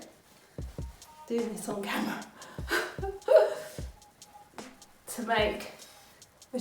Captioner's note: laughs